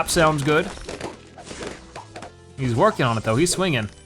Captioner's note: balloons popping